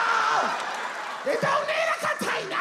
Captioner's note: audience laughs